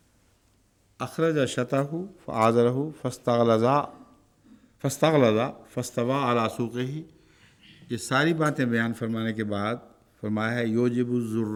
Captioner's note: Arabic